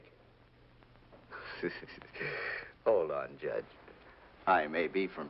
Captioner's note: chuckles